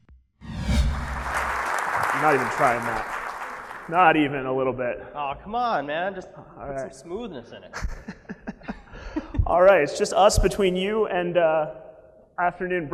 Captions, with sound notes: (applause) - I'm not even trying that. Not even a little bit. - Come on man, put some smoothness in it. (laughing) - Alright, it's just us between you and afternoon break.